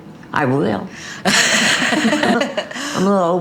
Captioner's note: laughs